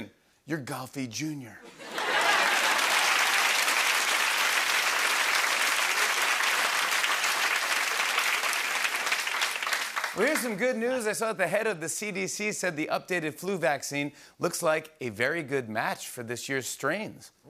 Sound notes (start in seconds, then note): 1.9 cheers and applause